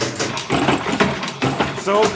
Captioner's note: machine whirring